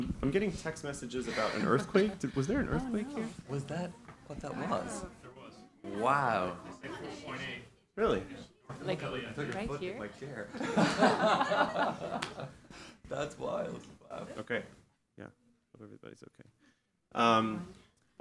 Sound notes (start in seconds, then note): 10.5 laughing